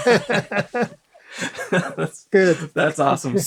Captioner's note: laughter